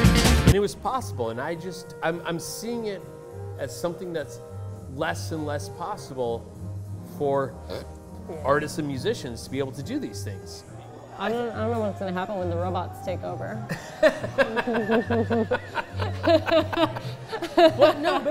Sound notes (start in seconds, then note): 13.7 laughs